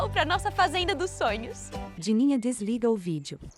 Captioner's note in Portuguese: Pássaros